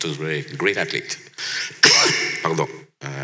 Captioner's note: coughs